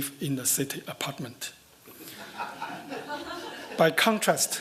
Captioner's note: laughter